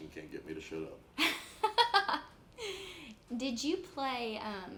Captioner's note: laughs